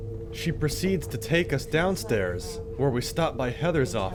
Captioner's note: voiceover